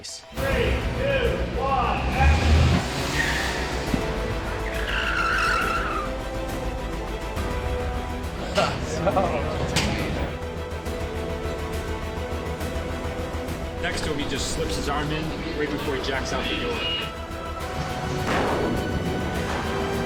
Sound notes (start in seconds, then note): 5.0 tyres screeching; 8.3 laughs